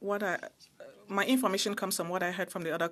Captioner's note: speaking French